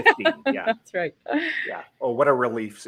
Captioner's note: laughs